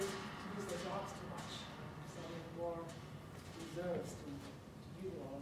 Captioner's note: speaking quietly